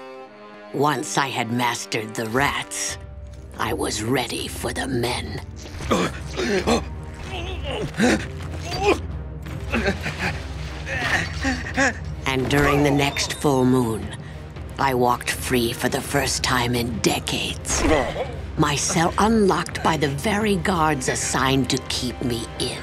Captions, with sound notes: Once I had mastered the rats, I was ready for the men. [gasping] [grunting] [gasping] And during the next full moon, I walked free for the first time in decades, My cell unlocked by the very guards assigned to keep me in.